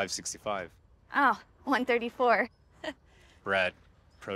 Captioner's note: chuckles